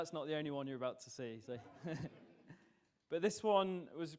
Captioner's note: audience laughs